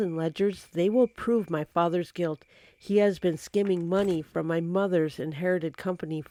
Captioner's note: papers moving